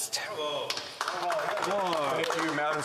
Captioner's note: applause